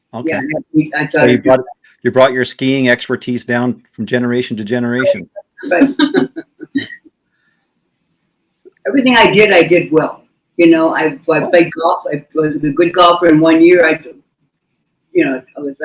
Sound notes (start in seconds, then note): 4.3 laughing